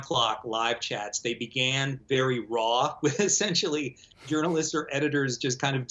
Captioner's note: laughs